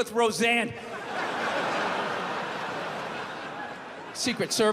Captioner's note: crowd laughs